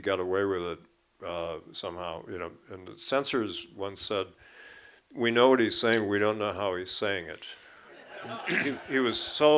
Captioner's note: laughter